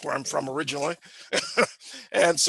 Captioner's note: chuckles